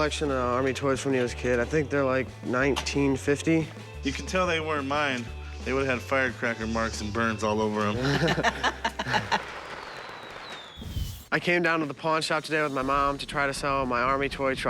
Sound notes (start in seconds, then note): 8.0 laughter